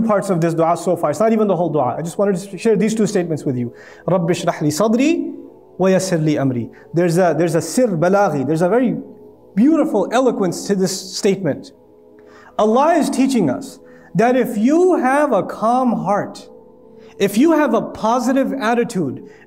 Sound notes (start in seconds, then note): 3.8 Arabic; 7.8 Arabic